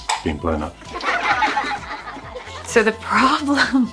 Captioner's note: imaginary audience laughing